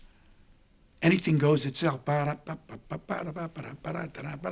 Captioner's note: humming